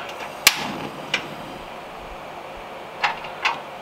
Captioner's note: burner clicking